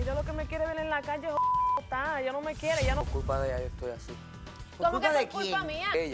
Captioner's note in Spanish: Bip